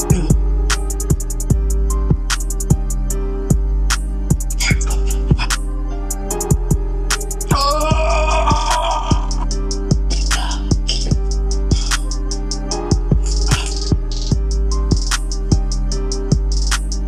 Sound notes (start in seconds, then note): 0.0 convulsing; 7.4 yelling